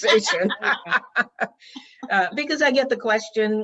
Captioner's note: participants laughing